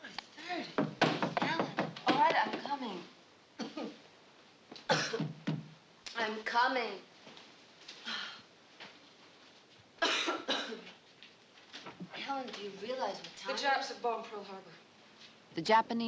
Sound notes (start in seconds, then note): 0.7 knocking; 4.8 coughing; 10.0 coughing